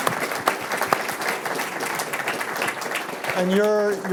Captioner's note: applause